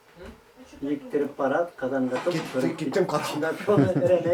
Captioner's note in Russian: смеется